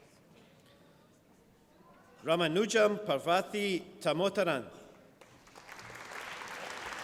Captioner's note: applause